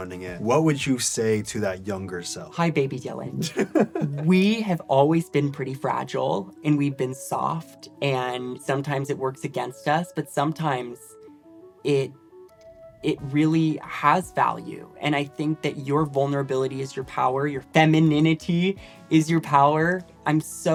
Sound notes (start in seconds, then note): 3.4 laughs